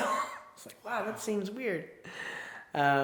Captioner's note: chuckles